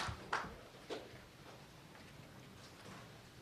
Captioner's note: applause